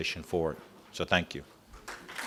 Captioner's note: applause